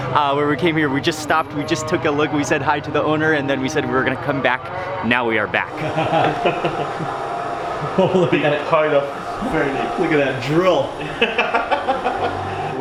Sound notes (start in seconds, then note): 5.7 chuckles; 8.1 background chattering; 11.7 laughing